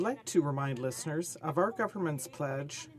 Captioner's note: speaking in french